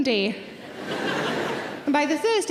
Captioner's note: audience laughing